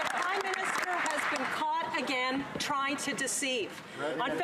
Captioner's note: some Applause